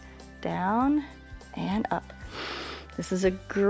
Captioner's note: inhales